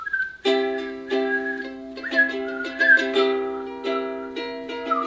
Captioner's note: whistling